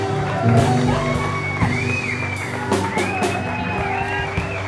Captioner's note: crowd cheering